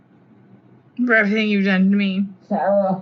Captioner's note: gentle background hum; slurring